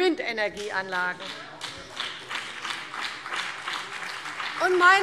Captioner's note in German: Beifall CDU, BÜNDNIS 90/DIE GRÜNEN und DIE LINKE